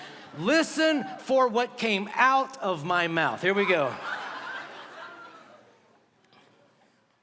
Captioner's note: laughter